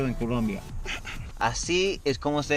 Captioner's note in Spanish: risas